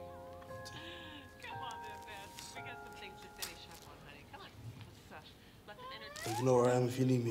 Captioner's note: characters laughing; plastic rustling; characters chattering indistinctly